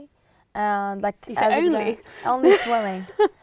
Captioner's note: laughing